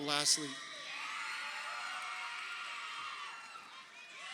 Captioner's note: crowd cheering